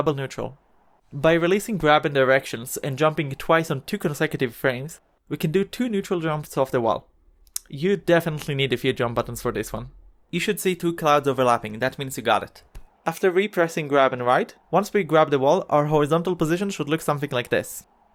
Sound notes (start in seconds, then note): 5.4 tsk